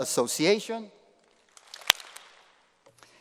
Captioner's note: applause